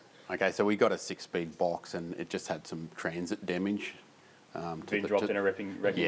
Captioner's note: none